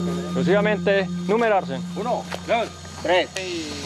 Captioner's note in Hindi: स्पैनिश बोलते हुए